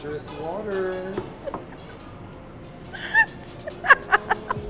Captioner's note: laughs